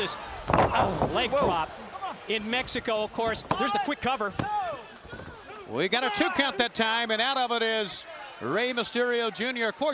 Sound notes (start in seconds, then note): 3.4 hand pounding